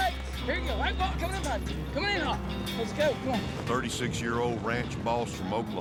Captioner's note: shouting